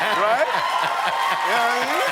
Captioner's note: applause